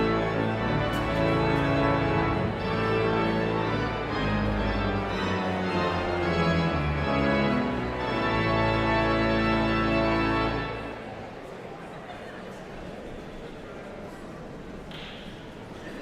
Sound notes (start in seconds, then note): 1.9 energetic organ music continues; 6.2 audience chattering continues